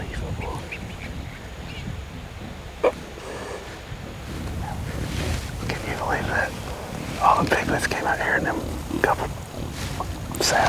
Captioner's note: whispering